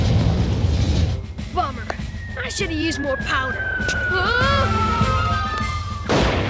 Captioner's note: exclaims